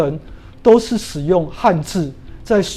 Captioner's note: chinese words